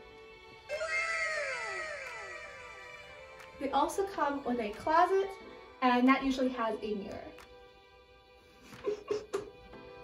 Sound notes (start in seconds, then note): 8.8 laughs